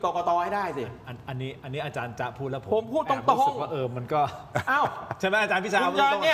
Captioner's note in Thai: เสียงหัวเราะ